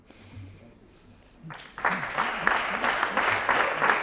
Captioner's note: applause